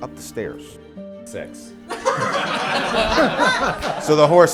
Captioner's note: laughing